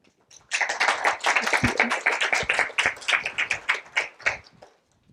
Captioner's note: applause